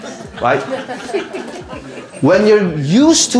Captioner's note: audience laughs